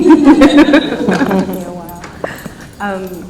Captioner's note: laughs